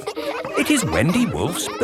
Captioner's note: kids laughing